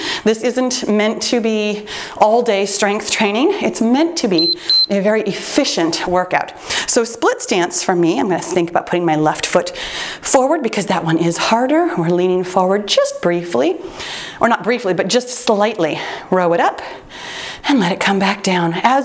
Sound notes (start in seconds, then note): 4.3 timer beeps